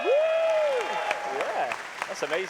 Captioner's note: cheers and applause